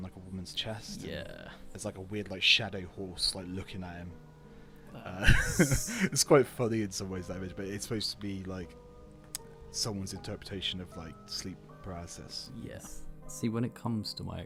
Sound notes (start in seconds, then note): 5.2 laughter and funny hissing laugh